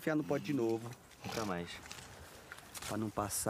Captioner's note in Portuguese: bufa